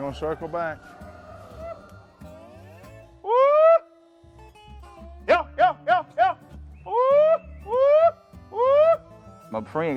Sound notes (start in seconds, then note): 3.4 yells